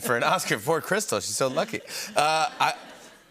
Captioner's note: laughter